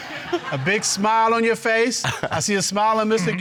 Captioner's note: chuckles; audience laughing